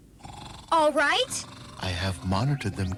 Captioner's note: snoring